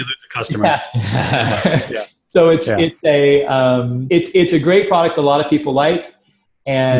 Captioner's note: laughs